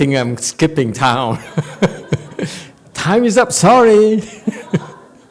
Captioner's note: laughs